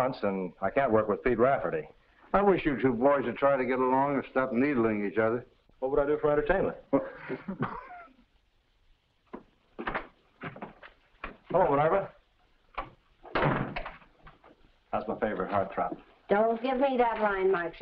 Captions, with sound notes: I can't work with Pete Rafferty. - I wish you two boys would try to get along and stop needling each other. - What would I do for entertainment? - Huh! (coughs) - Hello, Minerva. (door slams) How's my favorite heart trap? - Don't give me that line, Mike Shayne.